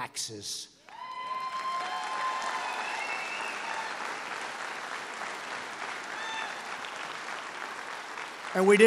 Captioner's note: applause